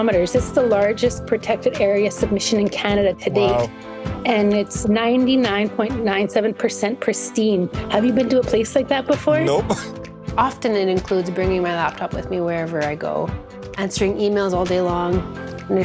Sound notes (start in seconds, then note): 9.8 laughter